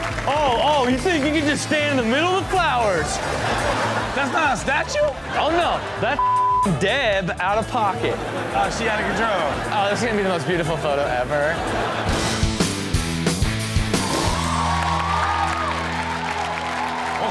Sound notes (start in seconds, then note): 3.4 audience laughs; 7.8 audience laughs; 12.8 hard rock music; 14.0 audience applauds